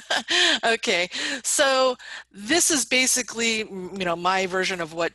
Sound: laughs

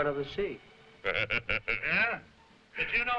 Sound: Gregory laughing

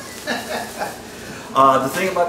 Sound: laughs

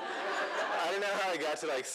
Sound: laughter

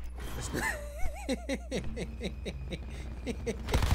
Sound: laughing

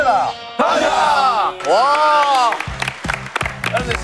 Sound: clap

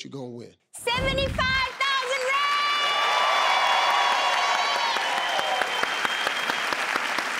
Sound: crowd cheering

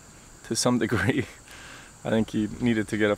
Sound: chuckling

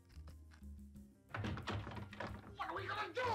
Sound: tries to open door

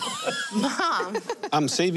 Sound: laughing

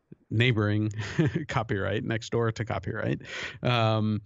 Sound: chuckle

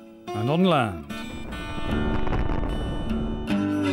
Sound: boom!

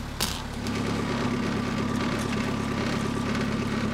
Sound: engine

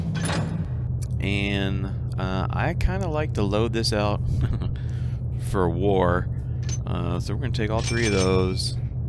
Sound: chuckles

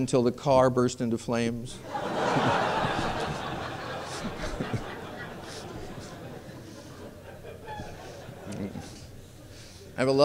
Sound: laughter

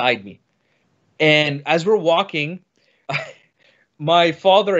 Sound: laughs

